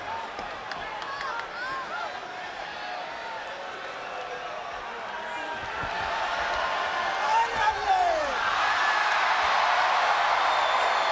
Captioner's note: crowd cheering; crowd chatter